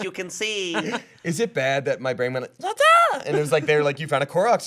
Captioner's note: imitating cartoon